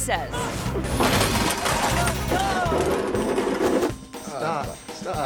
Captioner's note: bumper creaks; all chuckling